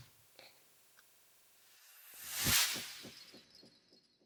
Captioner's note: sound effect